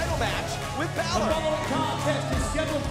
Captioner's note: bell ringing